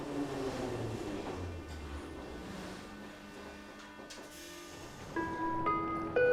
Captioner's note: train hitting brakes